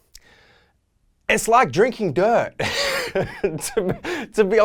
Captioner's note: laughs